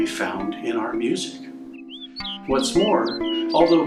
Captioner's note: bird vocalizes